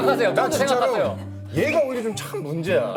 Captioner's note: laughs